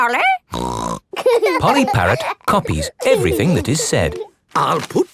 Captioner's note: laughing